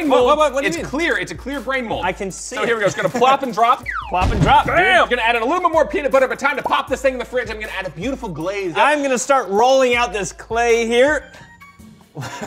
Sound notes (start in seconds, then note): 3.8 whistle; 4.1 boom